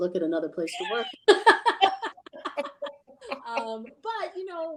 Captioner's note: lady laughing